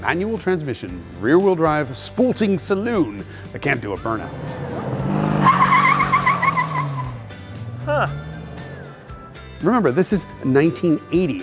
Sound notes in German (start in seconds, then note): 5.3 Motor heult auf; 5.3 Reifen quietschen